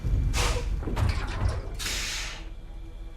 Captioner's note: brakes hiss